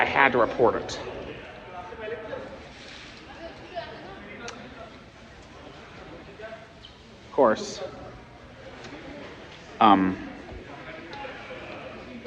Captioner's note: students chattering